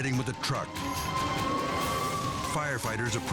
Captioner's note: sirens wailing